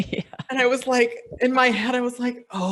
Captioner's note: speakers laughing